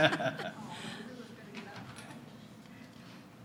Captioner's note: laughter